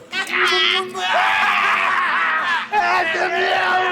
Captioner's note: laughs